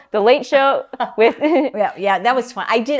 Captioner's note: laugh